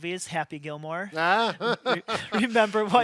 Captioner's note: laughs